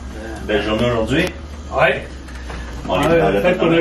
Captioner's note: speaking french